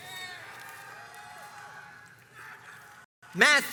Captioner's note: crowds cheers and applauds